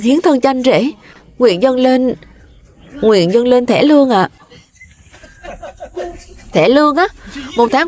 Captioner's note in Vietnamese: tiếng cười